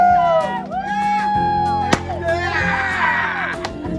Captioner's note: pop